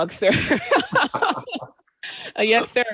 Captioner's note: laughter